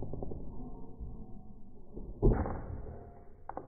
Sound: Like, the Android version of a thud

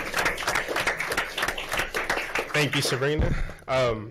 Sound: applause

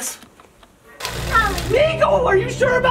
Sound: film reel sound

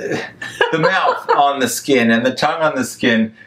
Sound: laughs

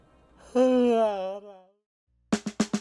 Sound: yawns

